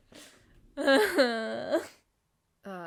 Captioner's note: crying